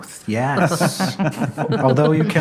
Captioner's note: laughter